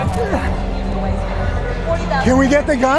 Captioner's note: grunts